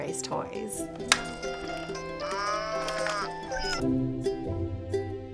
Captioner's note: toy music; cow mooing; bright gentle music